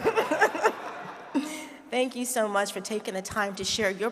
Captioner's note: all laughing